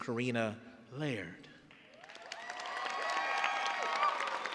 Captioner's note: cheers and applause